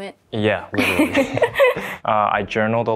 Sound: laugh

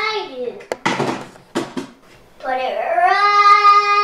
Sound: banging

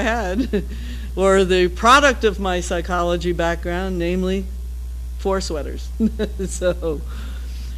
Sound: laugh

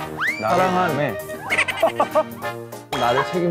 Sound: what's that? Laughing

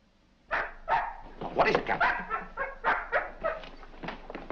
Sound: dog barks

